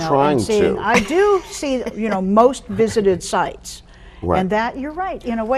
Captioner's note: chuckling